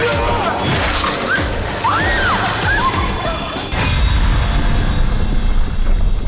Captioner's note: Brooks grunts; women scream; dramatic music